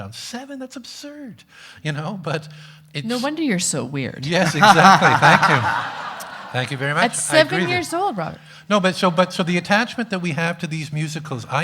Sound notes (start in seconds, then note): 4.4 everyone laughing